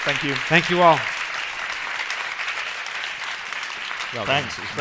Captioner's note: clapping